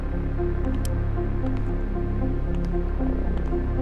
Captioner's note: dramatic music; footsteps tapping; dramatic music